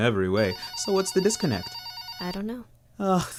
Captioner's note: telephone rings